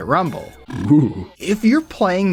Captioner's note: DS Rumbles